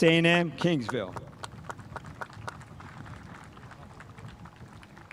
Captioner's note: spectators applauding